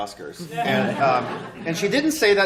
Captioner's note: laughter